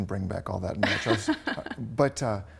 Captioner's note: laughs